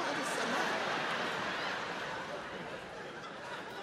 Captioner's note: crowd laughing